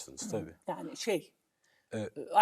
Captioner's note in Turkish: boğazını temizler